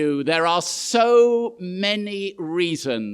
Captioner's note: none